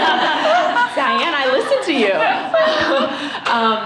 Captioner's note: laughter